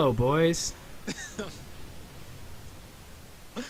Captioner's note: laughing